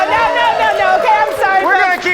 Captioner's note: audience applauds